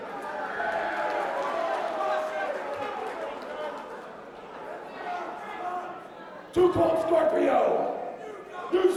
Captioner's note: crowd chatter